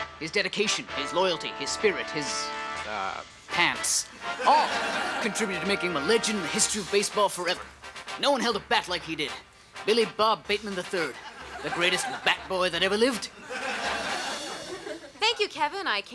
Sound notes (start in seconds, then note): 4.1 audience laughs; 13.6 audience laughs